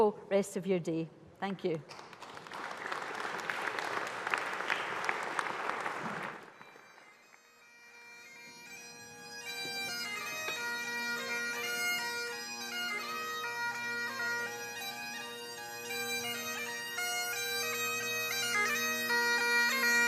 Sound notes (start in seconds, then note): 1.8 applause